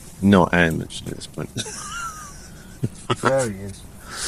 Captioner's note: laughs